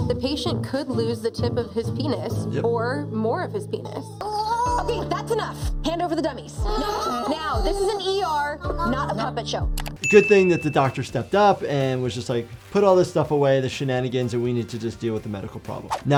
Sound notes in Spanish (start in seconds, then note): 5.2 las marionetas gimen